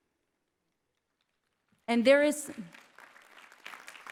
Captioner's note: clapping